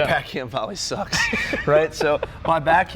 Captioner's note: laughs